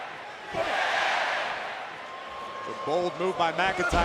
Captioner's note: audience cheers